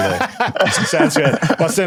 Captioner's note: laughs